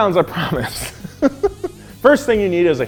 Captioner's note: laughing